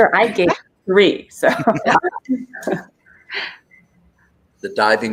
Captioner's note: laughter